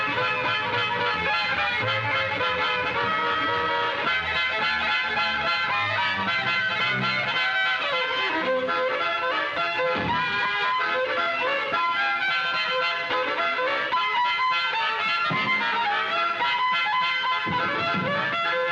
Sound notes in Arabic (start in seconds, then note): 0.1 موسيقى فودفيل محمومة; 9.9 صوت القوس